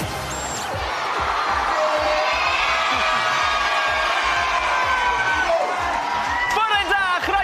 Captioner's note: cheering and applause